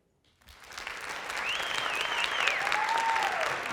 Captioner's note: applause